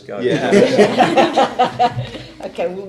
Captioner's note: laughing